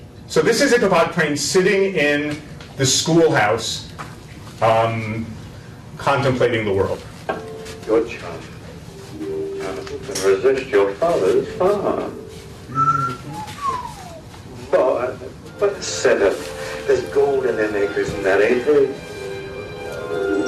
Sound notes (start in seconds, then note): 12.7 whistling